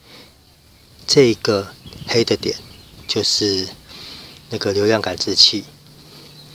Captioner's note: air flow